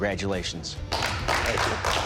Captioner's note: applause